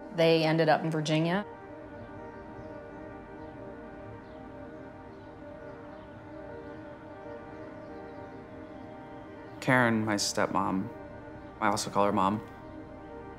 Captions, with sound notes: They ended up in Virginia. (birds chirp) - Karyn, my stepmom, I also call her mom,